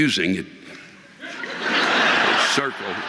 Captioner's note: audience laughing